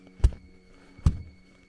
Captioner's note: thud